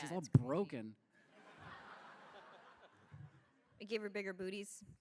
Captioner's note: laughter